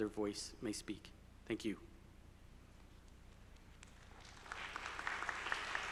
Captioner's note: audience applauding